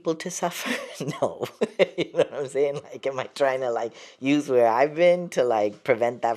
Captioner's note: laughter